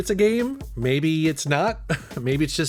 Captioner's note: chuckles